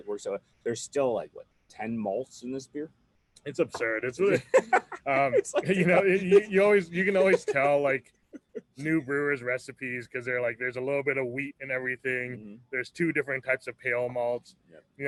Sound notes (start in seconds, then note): 3.7 laughs